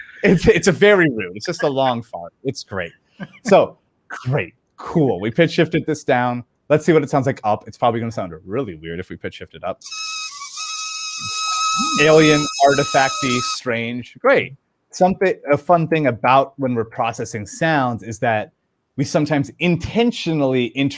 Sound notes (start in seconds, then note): 9.8 balloon squeaking in higher pitch